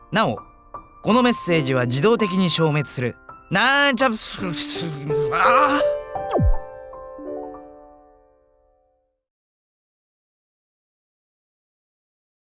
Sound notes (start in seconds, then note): 5.2 gargle; 9.8 silence